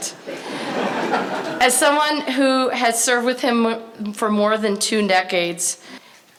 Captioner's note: laughter